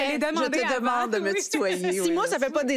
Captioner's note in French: rires